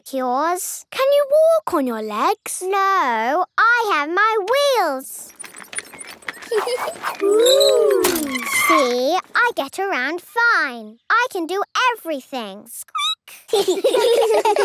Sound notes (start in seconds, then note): 6.4 giggling; 12.0 squeaking; 13.4 laughter